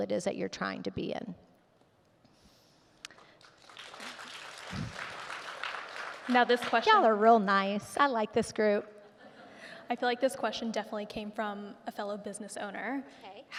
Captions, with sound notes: it is that you're trying to be in. (audience clapping) - Now this question- - Y'all are real nice. I like this group. (audience chuckling) - I feel like this question definitely came from a fellow business owner.